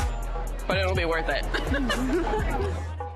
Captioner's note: laughs